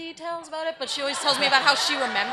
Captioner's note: audience laughs